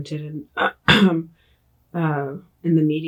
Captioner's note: clears throat